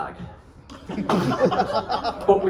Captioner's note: laughter